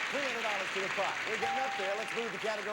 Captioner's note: audience applauding